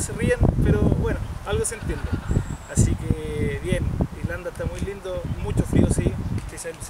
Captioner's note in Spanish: risas del ambiente